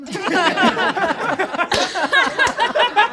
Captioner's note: all laugh